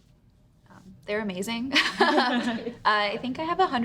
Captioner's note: women laugh